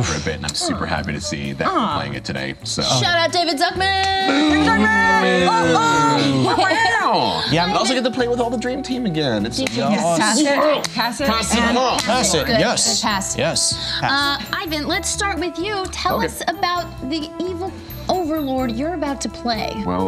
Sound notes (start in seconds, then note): 6.6 meows